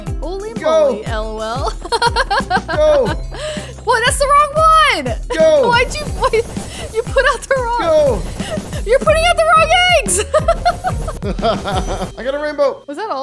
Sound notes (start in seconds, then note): 1.6 laughs; 10.0 both laugh